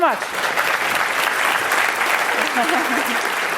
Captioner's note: applause